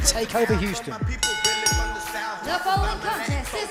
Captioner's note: bell ringing